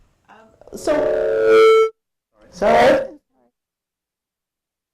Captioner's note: feedback screeching